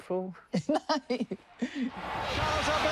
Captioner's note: laughs